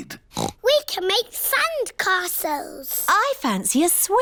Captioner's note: oinks